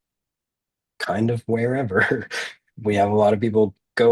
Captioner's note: chuckles